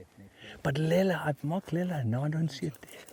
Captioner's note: speaking in another language